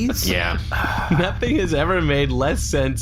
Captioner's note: laughing